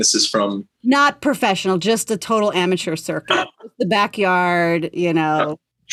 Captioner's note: laughter